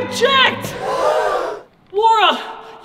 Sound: audience gasps

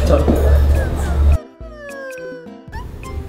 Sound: still laughing

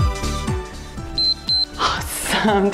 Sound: timer beeps

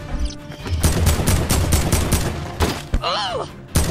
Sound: gun bangs

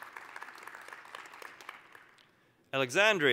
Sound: applause

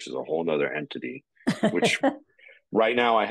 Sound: chuckling

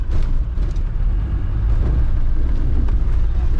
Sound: engine roaring

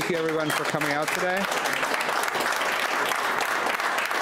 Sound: clapping

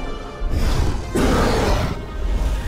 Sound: roar

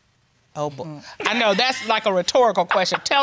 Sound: laughs

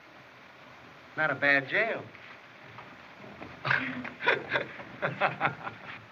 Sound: laughs

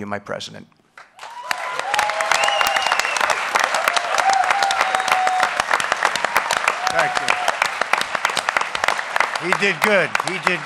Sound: applause

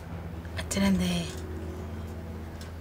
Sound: Amma speaks to her mother in malayalam

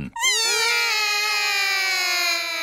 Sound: all cry

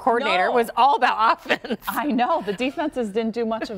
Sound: laughter

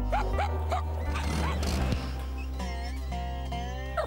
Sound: barking; engine Revving

